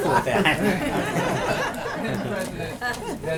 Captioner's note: laughter